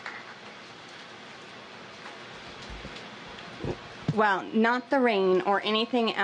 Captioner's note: applause